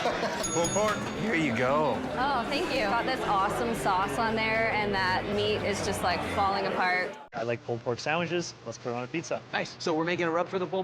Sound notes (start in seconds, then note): 0.4 bell dinging; 0.6 laughs